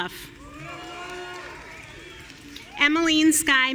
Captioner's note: audience cheering